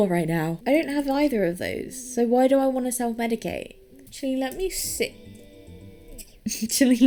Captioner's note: laughing